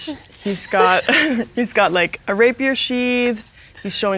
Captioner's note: chuckles